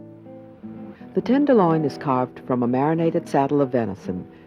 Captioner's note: voiceover